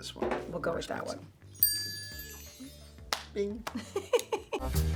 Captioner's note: bell dinging; Heather laughing